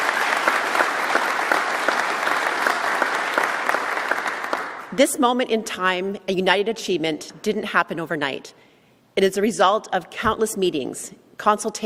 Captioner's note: applause